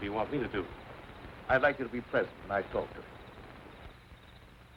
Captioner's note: none